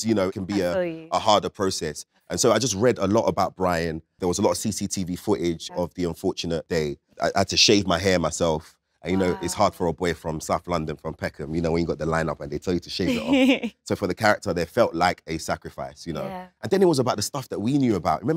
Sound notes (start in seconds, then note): 13.0 Letitia chuckles